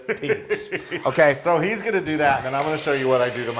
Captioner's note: laugh